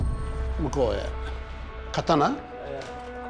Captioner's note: speaking japanese